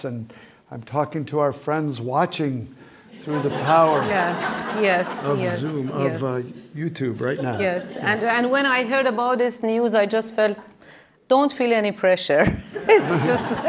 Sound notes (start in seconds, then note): 5.2 audience applauding; 12.8 laughs